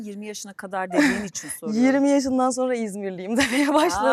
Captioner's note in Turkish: kahkaha